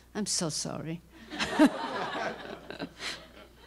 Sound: laughter

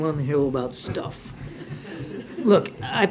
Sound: laughter

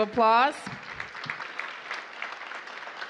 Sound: applause

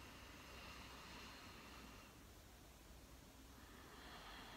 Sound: breathing deeply

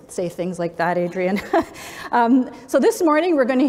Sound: laughs

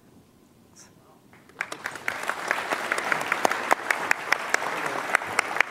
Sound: audience applauding

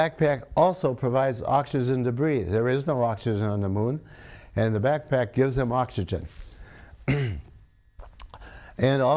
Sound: clears throat

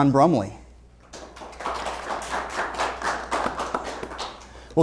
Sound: applause

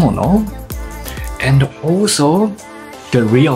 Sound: none

